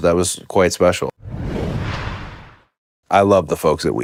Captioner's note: logo whooshing